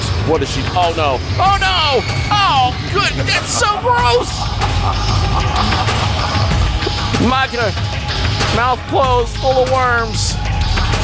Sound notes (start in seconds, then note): 5.1 man laughing manically